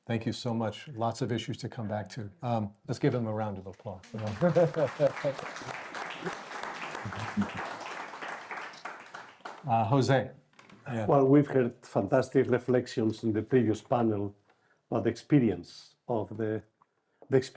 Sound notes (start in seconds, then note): 6.0 all clapping